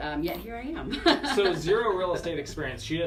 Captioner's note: laughter